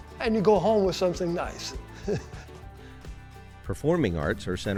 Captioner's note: chuckles